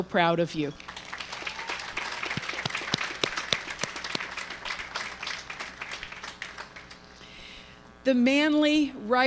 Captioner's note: applause